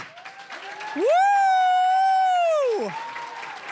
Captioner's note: cheering, applause; applause